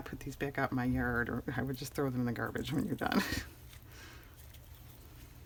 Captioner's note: laughs